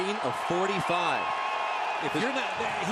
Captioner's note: cheering